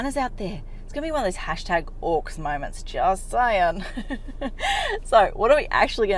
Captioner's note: laughs